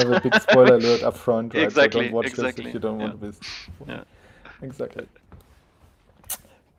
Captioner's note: laughing